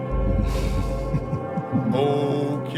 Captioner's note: caller laughs